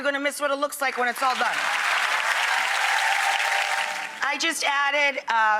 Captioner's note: audience applauds